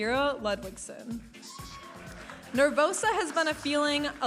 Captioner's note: audience applauding and cheering